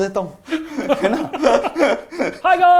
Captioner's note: laughs